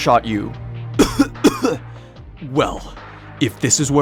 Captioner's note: coughing